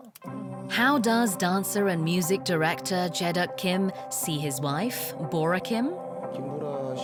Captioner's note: voiceover